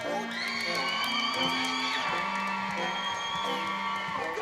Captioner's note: crowd cheering